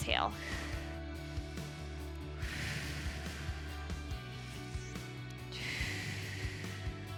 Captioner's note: upbeat music continues; exhaling